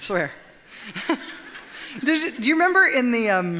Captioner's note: audience chuckles